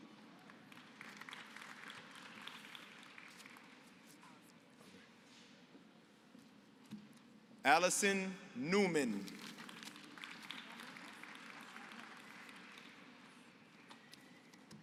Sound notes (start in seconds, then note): 0.0 applause; 8.8 applause